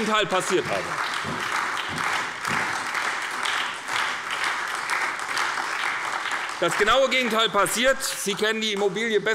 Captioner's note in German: Beifall bei der SPD